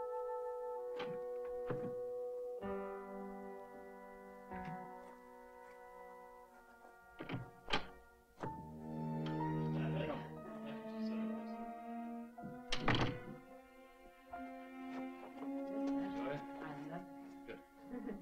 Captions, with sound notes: (door clatters) (ominous music) (people softly chattering) - I love it. - Good.